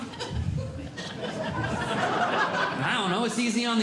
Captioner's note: audience Laughing